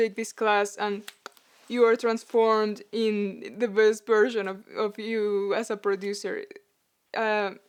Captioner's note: snap